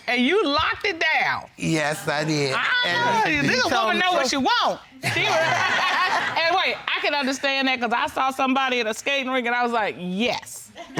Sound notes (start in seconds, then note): 5.0 all laughing